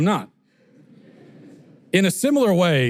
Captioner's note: audience laughter